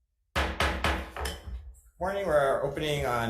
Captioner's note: gavel banging